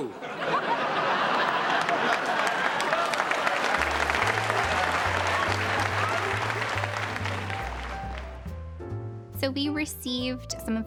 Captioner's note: laughing and clapping